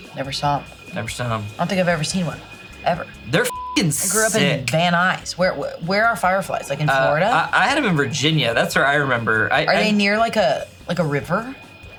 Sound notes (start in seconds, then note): 3.4 beep